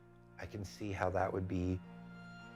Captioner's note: none